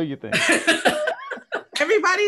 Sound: panel laughs

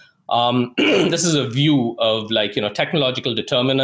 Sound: clears throat

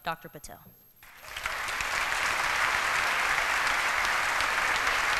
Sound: applause

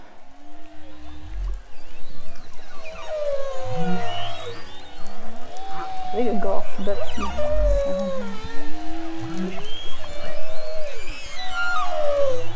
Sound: whale songs; whale songs -- clicks and sounds

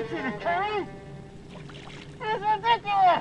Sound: water splashing

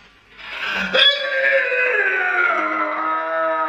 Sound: Makes Hulk noise

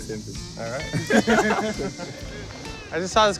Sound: laughter

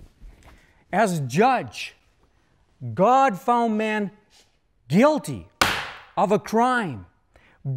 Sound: bang!

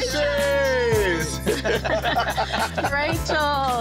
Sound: all laughing

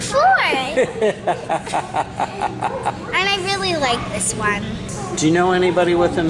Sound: laughter

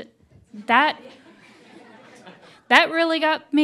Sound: attendees laughing

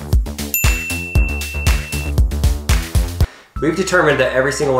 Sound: bell chiming

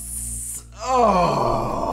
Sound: moans

